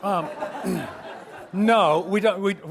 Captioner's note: audience laughs